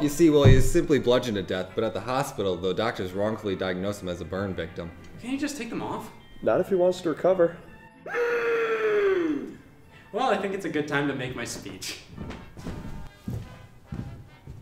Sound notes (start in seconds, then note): 8.0 screams in agony